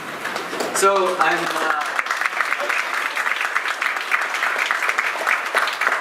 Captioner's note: audience applauding